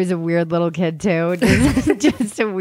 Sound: laughing

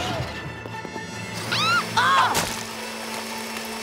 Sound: squealing

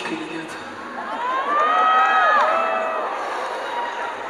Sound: salt on the wound scream

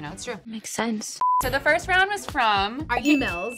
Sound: bell dings

